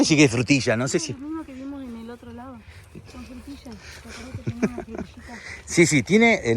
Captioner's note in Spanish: risas